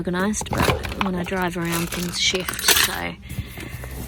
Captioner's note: more clattering; loud rattling of small metal parts